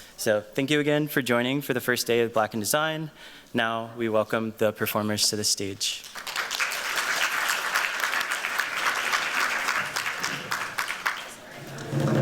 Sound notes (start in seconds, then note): 6.0 applause